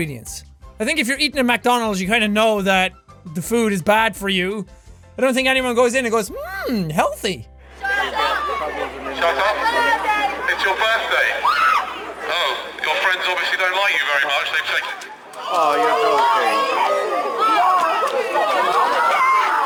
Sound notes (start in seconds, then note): 7.1 video chatter; 15.3 people in video yelling